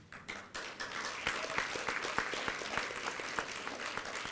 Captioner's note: applause